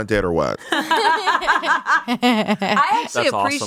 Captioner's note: everyone laughs